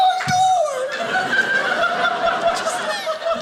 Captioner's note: audience laughing